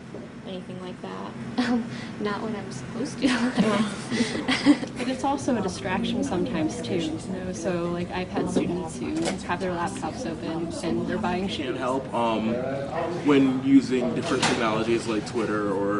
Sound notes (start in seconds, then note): 3.2 giggles